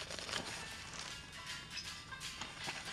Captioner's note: mobile phone rings